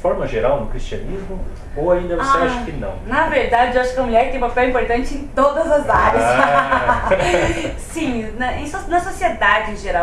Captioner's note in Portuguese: risos